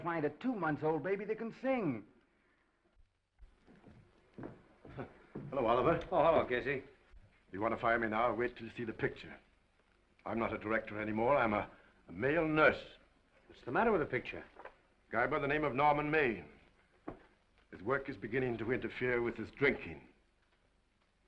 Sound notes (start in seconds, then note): 4.9 Casey chuckles